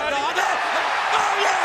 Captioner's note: audience cheering